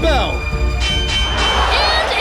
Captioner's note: bell rings